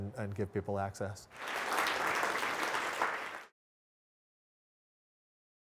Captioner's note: audience applauding